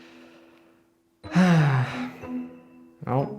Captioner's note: sigh